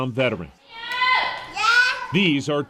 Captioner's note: yelling in Vietnamese